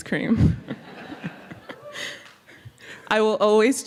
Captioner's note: laughter